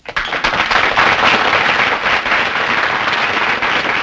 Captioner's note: applause